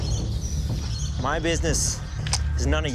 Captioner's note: pistol cocking